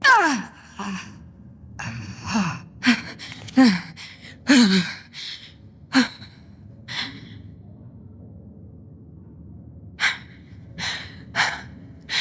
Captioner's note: panting